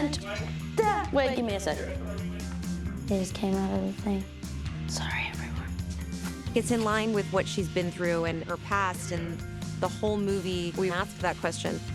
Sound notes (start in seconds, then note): 4.8 whispering